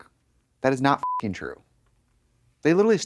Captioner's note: beep